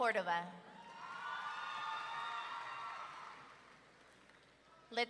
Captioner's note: audience cheering